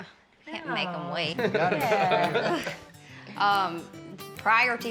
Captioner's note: everybody laughs